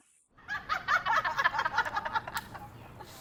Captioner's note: laughing